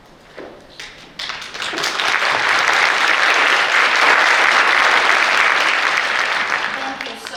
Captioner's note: applause